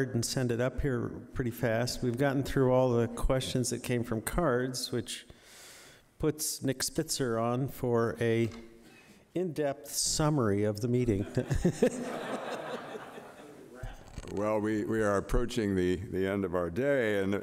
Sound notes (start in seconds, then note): 11.2 audience laughing; 11.3 laughing